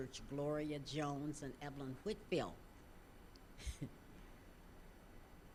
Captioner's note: chuckling